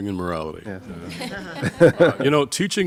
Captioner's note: panel laughing